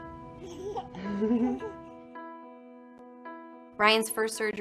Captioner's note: baby laughing